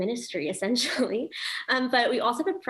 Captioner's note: laughs